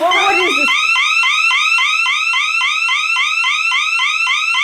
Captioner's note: siren blaring